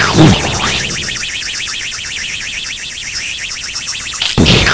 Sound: rocket engine; explosion; explosion

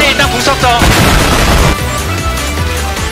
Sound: boooooom

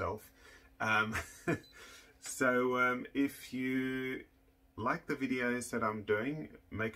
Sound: chuckles

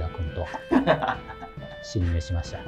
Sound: laughing

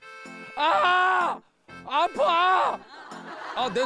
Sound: shouting

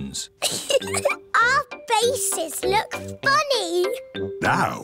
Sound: giggles

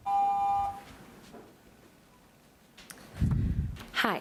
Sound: timer beeps

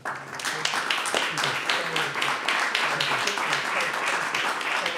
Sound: audience applauds

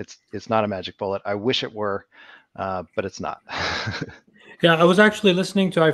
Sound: laughs

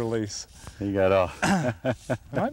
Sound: laughter

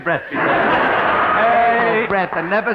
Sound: audience laughing

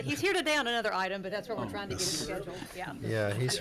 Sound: board members conversing

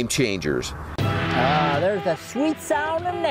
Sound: beeping

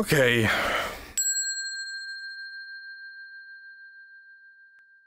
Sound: bell dinging

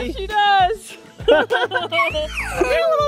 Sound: laughing

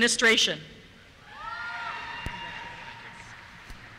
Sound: cheers

